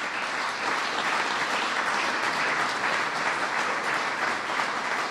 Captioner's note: applause